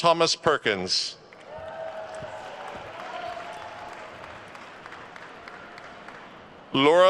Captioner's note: attendees cheering and applauding